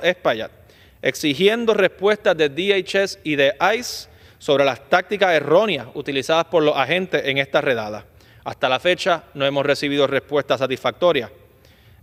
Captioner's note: speaking spanish